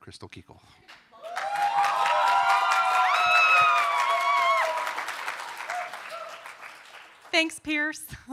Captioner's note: applause